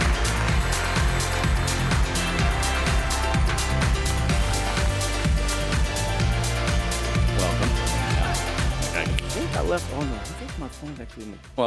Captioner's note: applause